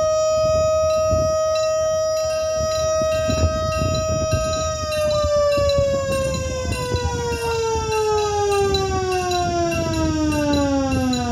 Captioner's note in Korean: 싸이렌 울림; 차단기 소리